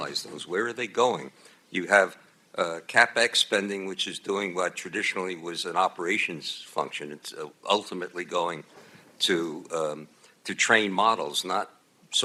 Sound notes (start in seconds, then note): none